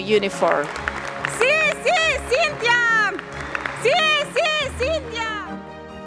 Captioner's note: acclamations et applaudissements bruyants